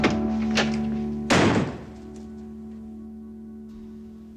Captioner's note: slam